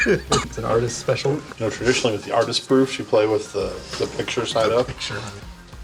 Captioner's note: laughing; wryly